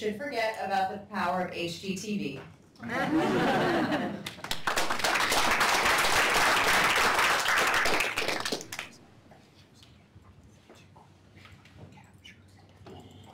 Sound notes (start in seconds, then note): 2.8 laughter; 4.2 applause